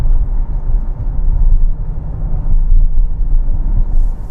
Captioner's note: low thudding